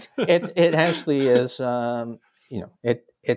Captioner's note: chuckle